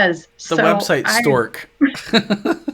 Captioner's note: laughing